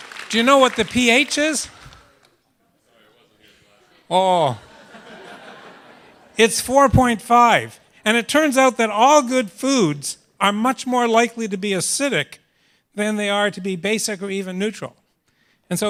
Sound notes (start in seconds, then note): 0.0 applause; 4.4 laughter